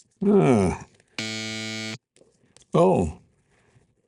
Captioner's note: buzzer buzzes